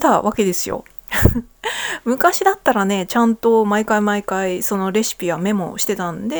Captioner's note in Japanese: 笑い